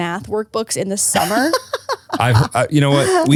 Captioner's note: laughs